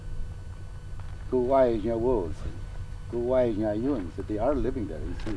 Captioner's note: speaking in native language